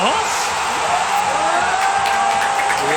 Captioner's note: ovation